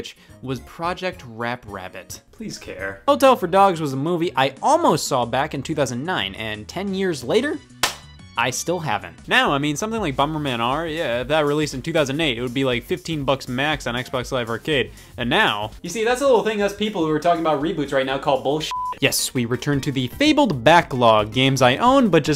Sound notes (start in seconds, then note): 18.7 beep